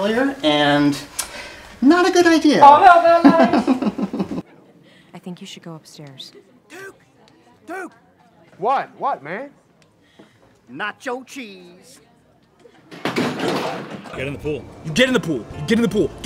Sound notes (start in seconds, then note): 3.1 laughs; 13.0 crash